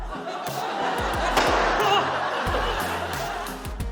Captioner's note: laughter; pop!; exclaims